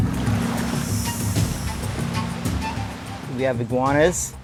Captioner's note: tribal music; waves crashing